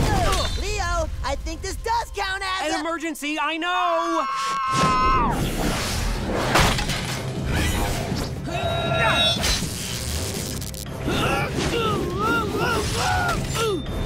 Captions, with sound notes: Leo, I think this does count as a- An emergency. I know! [screaming] [grunting] [groaning]